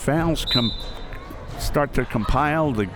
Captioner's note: whistle